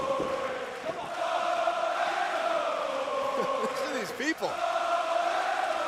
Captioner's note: crowd cheering